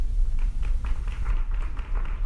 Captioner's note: laughter, applause